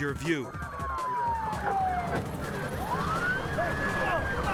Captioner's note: sirens blaring